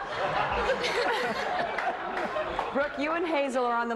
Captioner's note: laughter